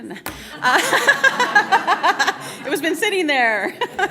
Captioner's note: laughter; laughs